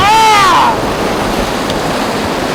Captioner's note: yelling